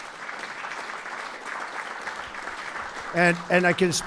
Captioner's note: applause